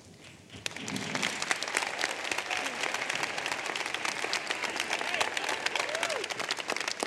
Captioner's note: applause